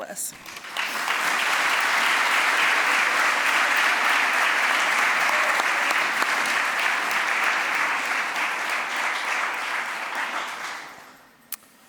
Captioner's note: applause